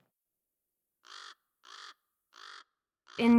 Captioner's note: bird cawing